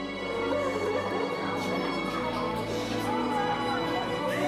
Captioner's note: Larah crying